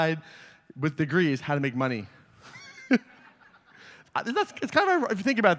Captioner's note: laughter